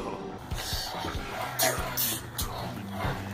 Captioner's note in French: voix du bébé